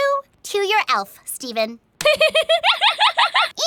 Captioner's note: giggles